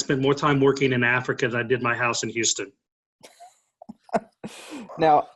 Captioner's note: laughing